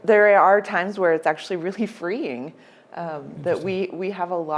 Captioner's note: laughs